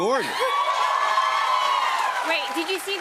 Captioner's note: cheers and applause